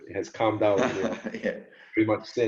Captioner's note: laughs